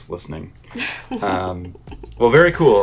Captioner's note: chuckles